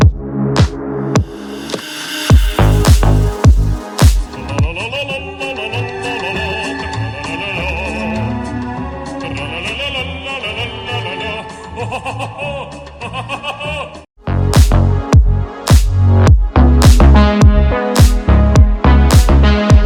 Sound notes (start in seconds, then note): 4.5 Trolololol sound effect